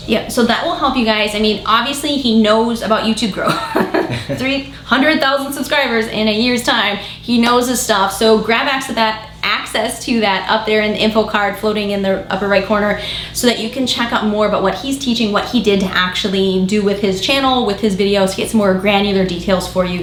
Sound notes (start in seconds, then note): 3.4 laughing